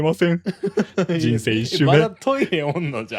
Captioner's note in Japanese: 笑い